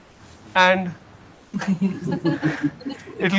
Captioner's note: laughter